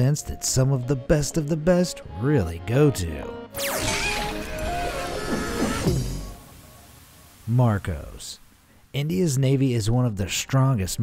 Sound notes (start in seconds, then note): 3.6 light music; 3.6 soft yelling